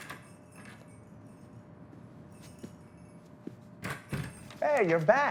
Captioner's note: bells jingling; door banging